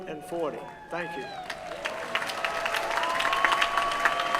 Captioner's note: applause